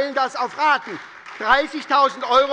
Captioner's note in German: Beifall bei der SPD